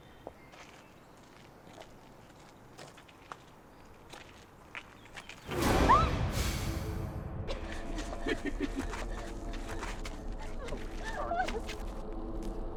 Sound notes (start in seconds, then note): 5.4 intense music; 5.5 Jane yelping; 9.3 sinister music